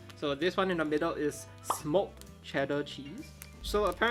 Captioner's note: graphic pops